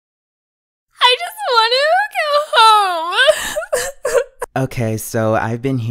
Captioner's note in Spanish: llora